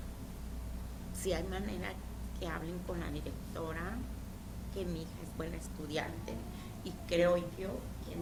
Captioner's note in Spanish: hablando en español